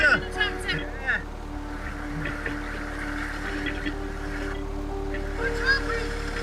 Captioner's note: gentle music; tractor droning